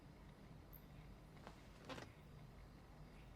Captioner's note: chair creaks